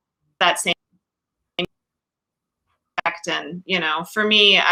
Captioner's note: audio cuts off